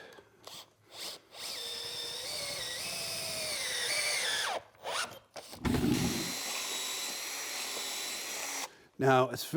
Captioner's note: drilling